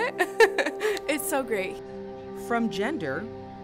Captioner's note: laugh